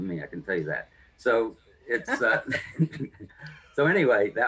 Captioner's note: both Laugh